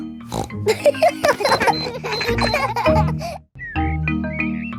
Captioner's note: snorts; kids laughing